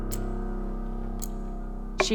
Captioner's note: tense music; clock ticking